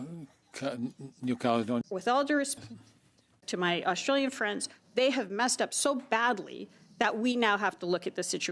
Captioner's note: speaking French